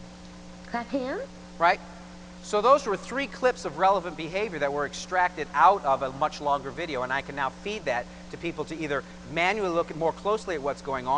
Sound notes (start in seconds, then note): 0.6 voiceover